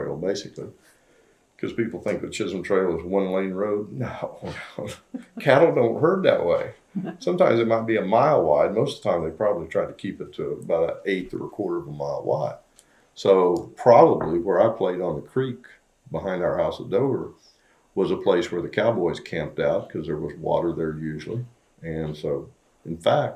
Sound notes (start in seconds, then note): 4.7 laughter